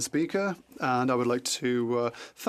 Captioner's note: speaking French